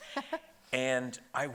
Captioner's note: chuckling